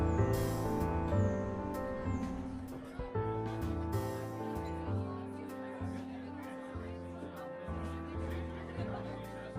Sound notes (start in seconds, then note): 3.7 bar patrons chattering